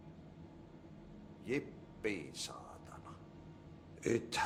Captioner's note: in finnish